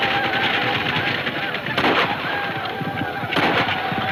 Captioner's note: gunfire pops